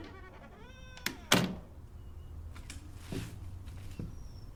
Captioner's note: door clicking